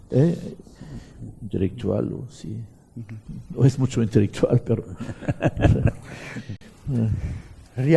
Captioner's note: laughs